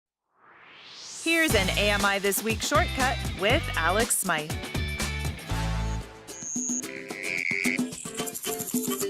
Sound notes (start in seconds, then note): 0.2 swoosh